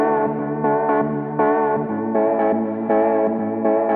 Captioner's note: none